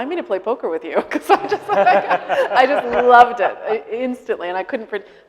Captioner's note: laughing